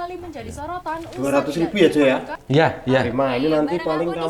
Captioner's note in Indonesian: Suara TV menyala